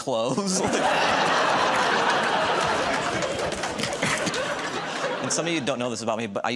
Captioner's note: laughter